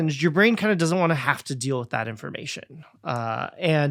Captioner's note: none